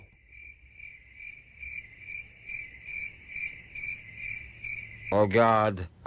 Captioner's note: crickets